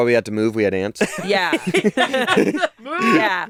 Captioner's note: laughing; laughs